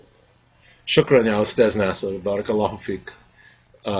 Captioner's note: speaking Arabic